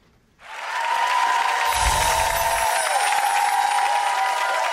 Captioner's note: applause and clapping